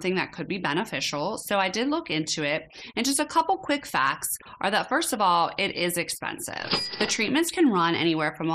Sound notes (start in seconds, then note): 6.6 cash register bell ringing